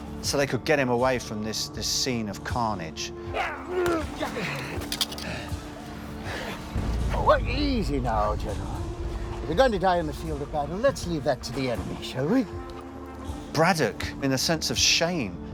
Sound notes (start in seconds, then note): 3.3 grunts